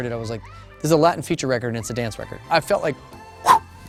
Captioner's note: blows sharply